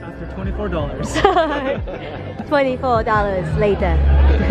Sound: laughing

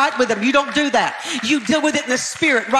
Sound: audience clapping

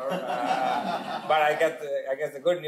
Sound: audience laughing

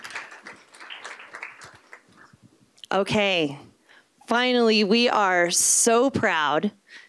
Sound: applause

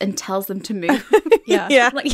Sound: laughing

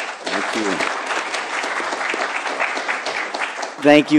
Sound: applause

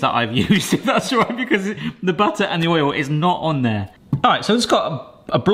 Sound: laughs

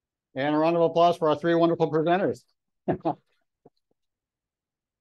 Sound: chuckles

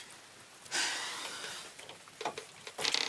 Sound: sighs

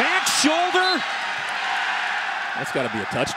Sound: crowd shouting

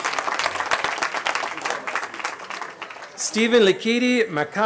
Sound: cheering

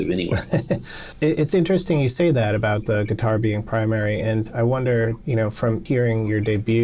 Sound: laughter

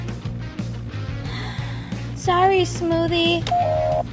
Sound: sigh

